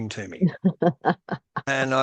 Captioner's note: laughs